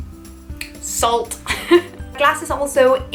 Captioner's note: laughs